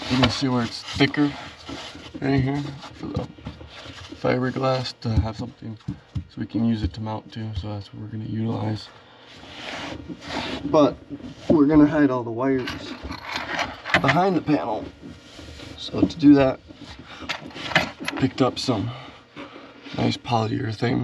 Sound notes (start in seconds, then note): 5.7 fingers thumping; 12.5 hardware rattling